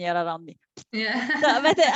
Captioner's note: laughs